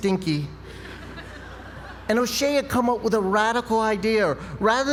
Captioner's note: laugh